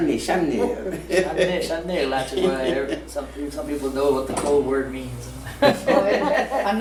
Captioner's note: laughing